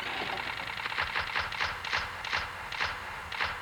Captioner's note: clicking